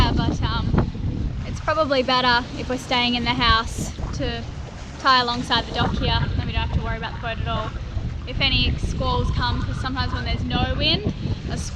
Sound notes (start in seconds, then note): none